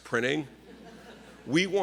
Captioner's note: laughing